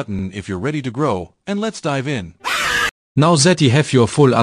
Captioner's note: scream